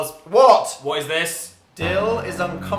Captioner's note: ominous sound effect